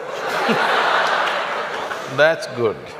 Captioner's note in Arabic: ضحك